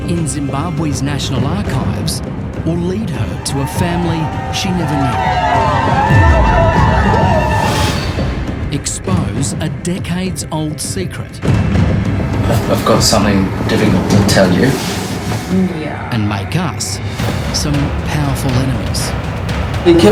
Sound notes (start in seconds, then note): 5.5 crowd cheering